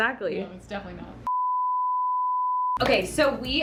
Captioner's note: beeping